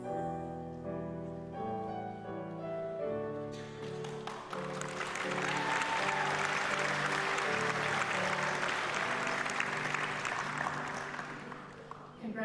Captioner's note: applause